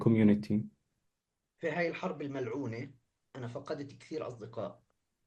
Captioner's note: speaking arabic